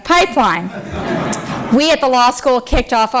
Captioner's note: laughter